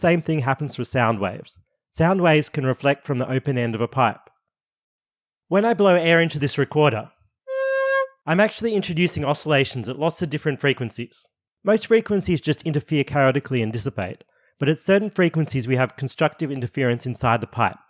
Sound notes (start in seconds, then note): 7.5 broop